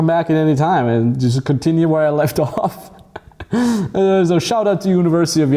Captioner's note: laughs